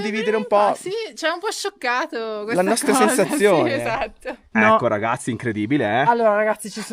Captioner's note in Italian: risate